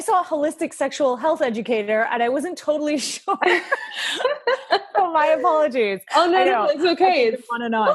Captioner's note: laughing